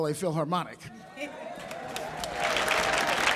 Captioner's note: audience laughing; audience applauding